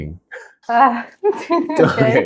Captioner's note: sigh